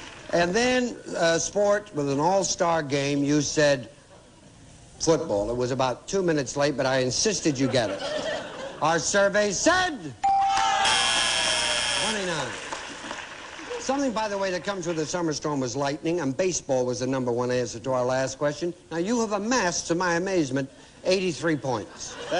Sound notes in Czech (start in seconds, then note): 10.8 bzučák